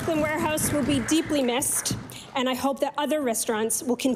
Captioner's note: applause